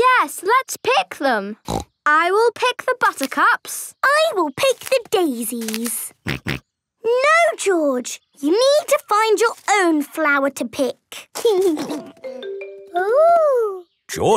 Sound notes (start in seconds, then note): 1.6 snorting; 6.2 George snorting; 11.4 giggling